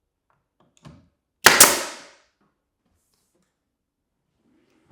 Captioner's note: nail gun popping